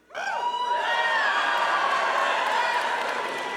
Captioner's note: students cheering